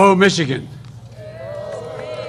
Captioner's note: applause